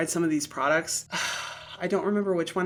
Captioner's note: sighs